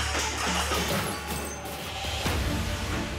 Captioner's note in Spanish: Estrépitos